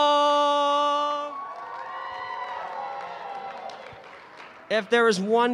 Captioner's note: cheering